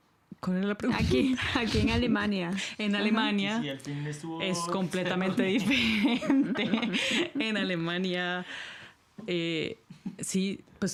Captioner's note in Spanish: risas